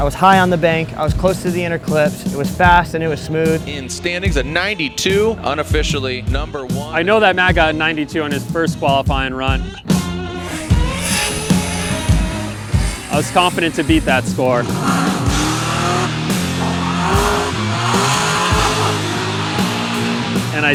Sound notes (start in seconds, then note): 10.4 dramatic music; 15.2 car engines roar; 17.5 dramatic music